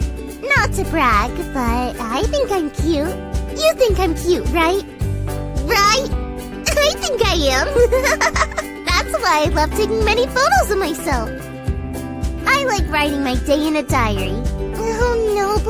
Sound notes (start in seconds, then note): 7.6 guilty laughter